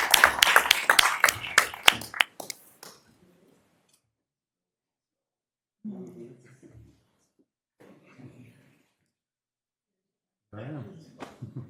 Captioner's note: applause